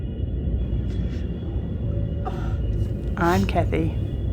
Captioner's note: distant train noise; crying